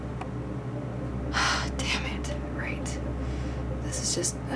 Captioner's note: sighs